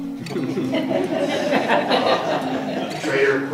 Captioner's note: audience laughs